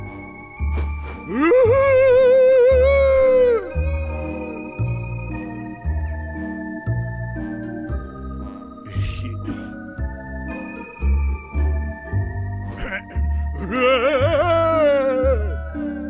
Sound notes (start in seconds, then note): 9.0 snickers; 13.8 hollers